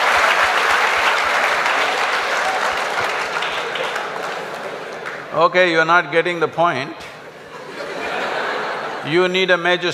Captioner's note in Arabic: ضحك وتصفيق; ضحك